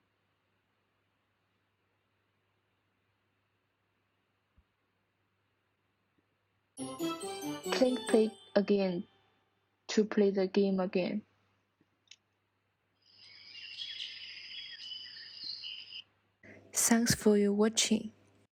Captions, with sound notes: (playful music) Click play again, to play the game again. (birds tweeting) Thanks for watching.